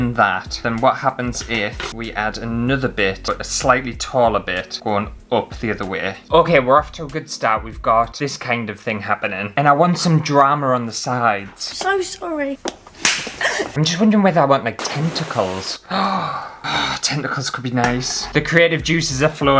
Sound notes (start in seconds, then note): 13.0 slap!